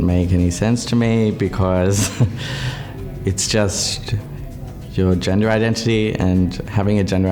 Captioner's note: laughs